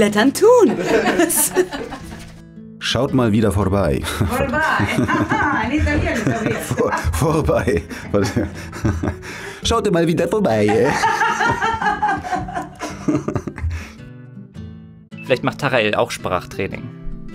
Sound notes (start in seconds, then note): 0.6 laughter; 4.9 German with funny Italian accent, laughter